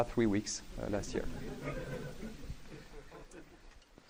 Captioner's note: laughing